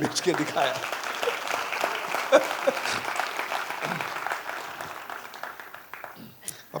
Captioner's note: applause